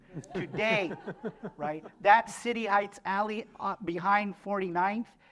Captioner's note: laughter